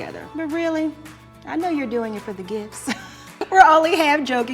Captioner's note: laughs